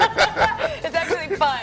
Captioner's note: laughing